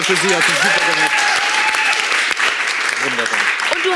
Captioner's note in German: Jubel, Applaus